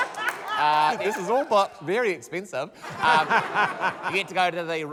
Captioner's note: laughs; laughter